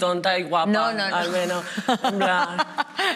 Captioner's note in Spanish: algunas ríen